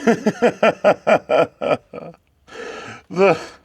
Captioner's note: laughing